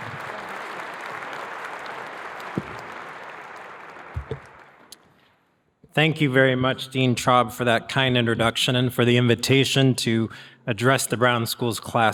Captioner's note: applause